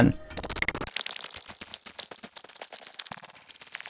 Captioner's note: digital sounds